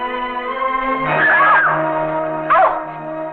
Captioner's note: all screaming